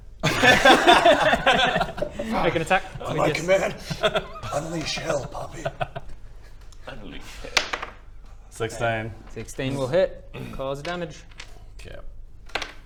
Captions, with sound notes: *laughter* Make an attack [hoarse] On my command...unleash hell Poppy unleash hell... 16 16 will hit cause damage Yep